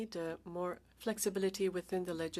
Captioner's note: speaking French